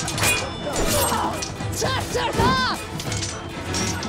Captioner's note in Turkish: Çarpışma sesleri; Çarpışma sesleri